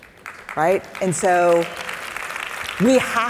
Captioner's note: audience applauding